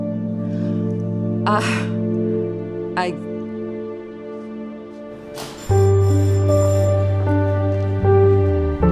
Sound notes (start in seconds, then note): 5.2 bell ringing